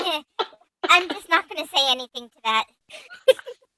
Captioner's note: says guiltily